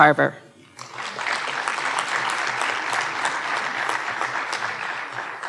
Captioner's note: audience applauding